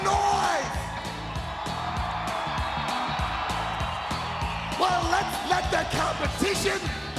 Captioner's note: applause